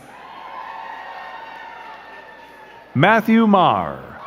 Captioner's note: crowd cheering and clapping